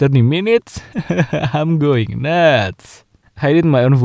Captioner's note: laughing